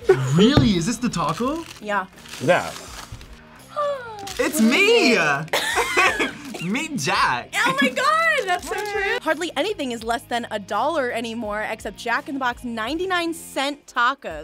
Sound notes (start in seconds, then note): 3.8 gasps; 5.5 both laugh